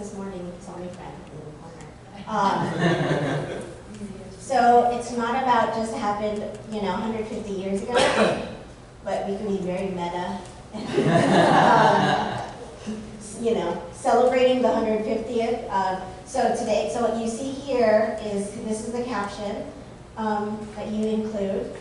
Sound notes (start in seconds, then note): 2.5 audience laughter; 10.8 laughter